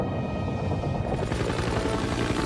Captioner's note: aircraft noise